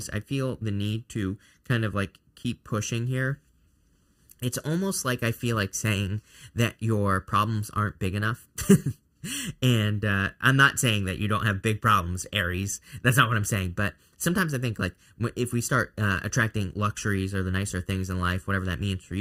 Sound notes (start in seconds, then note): 8.6 chuckles